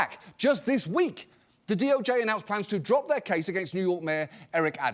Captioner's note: none